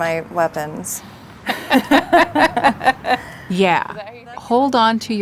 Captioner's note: laughing